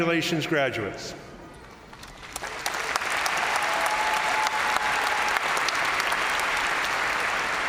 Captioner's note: crowd applauding; crowd cheering